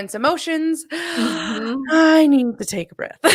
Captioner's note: inhales sharply